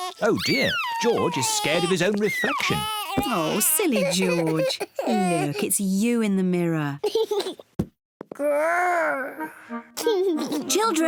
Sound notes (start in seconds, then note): 7.5 giggles; 10.0 giggles